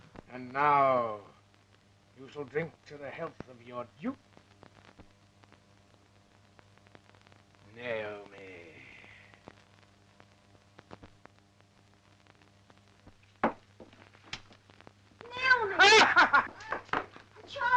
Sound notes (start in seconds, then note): 13.4 floor pattering; 15.4 laughs